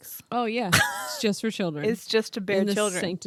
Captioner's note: laughing